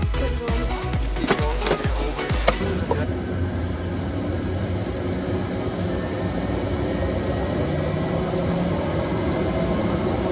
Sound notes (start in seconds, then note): 3.9 turboshaft engines spin up